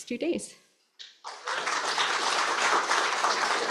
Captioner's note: applause